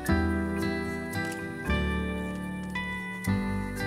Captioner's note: camera shutter clicks